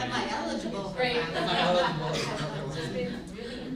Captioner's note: group laughs